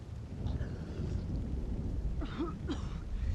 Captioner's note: thundering